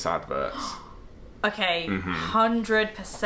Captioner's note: gasp